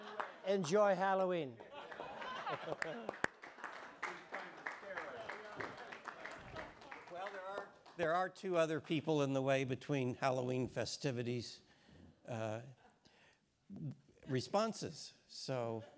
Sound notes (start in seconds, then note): 0.0 audience laughing; 1.6 audience applauding; 5.5 speaks faintly